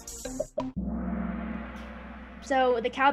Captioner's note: gong